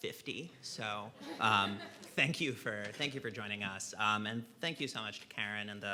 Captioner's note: laughing